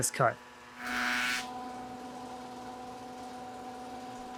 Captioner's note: machine humming